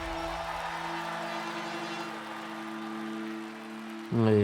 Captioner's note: aplausos y aclamaciones